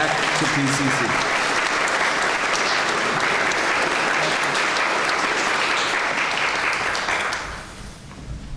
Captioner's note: clapping